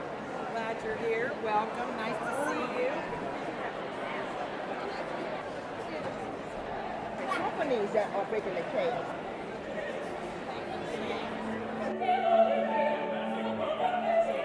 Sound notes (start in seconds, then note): 2.3 indistinct chatter; 11.0 operatic singing